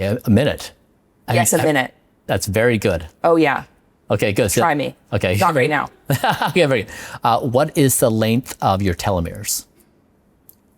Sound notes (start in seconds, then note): 6.0 laughs